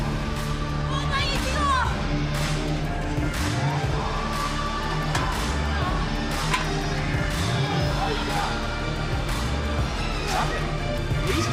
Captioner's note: foreign language